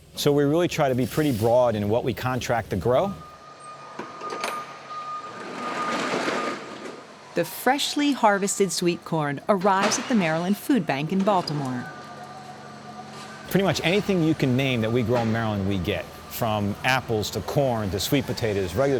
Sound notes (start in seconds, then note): 2.8 beeping sound; 3.7 sound of truck door sliding up